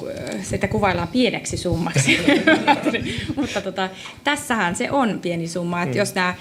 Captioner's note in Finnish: naurua